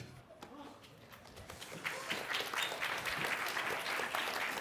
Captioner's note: applause